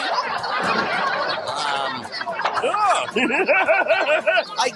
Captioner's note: studio audience laughing